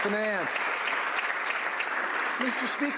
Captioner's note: some Applause